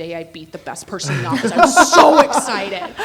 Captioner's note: everyone laughing